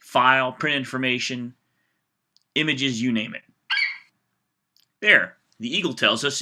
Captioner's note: FlightCheck eagle screeches